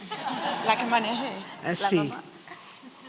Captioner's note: spanish